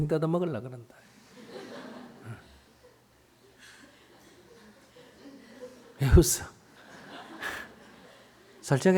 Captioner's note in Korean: 청중 웃음